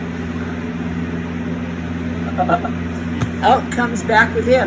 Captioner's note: chuckles